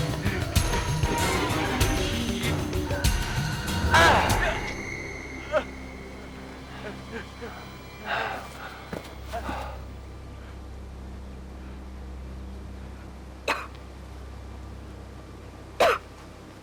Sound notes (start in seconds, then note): 13.0 coughing